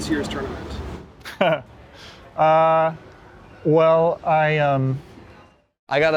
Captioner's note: laughs